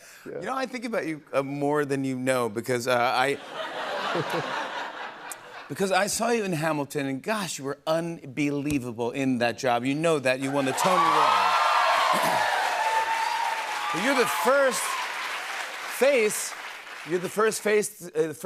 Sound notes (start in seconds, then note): 3.3 laughter; 10.4 cheers and applause